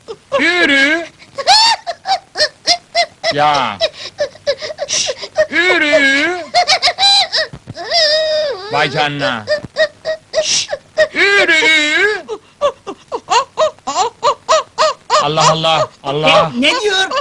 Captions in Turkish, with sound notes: Üüüü ürüüüü [ HOROZ SESİ] [ŞABAN HOROZ SESİ ÇIKARMAKTA KADIN TAVUK GİBİ SES ÇIKARMAKTADIR] -Allah Allah ! -Ne diyor bu ?